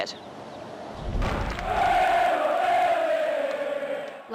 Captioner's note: soccer fans cheering and chanting